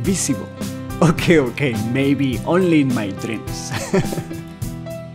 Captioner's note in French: rires